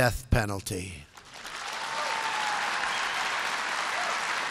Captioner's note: applause